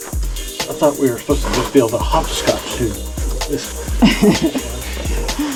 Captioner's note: laughter